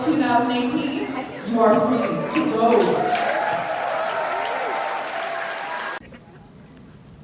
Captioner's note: applause